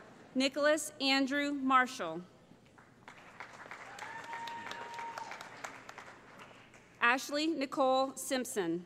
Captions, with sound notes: Nicholas Andrew Marshall [ Cheering ] Ashley Nicole Simpson